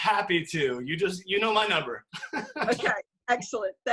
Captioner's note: laughs